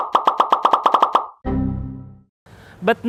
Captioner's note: rapid popping sounds; error sound